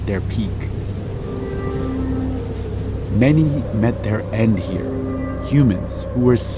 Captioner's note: soundbite of wind blowing